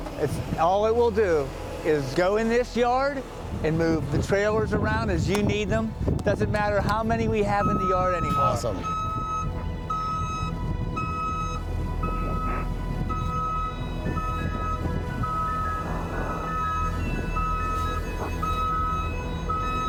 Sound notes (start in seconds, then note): 9.7 back-up alarm beeping; 11.0 soft music